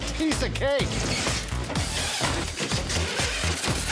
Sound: whirring

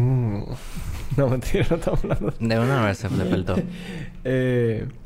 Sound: laughs

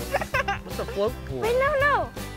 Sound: laughing

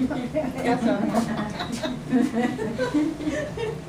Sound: laughs

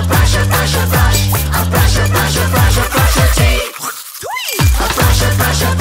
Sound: spitting sound

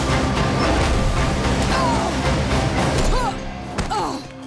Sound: groaning

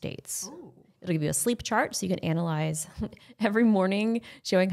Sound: laughing

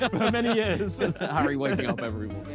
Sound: laughter

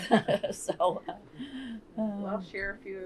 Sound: laughter

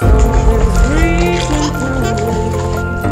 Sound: giggling

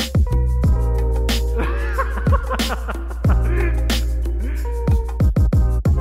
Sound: laughing

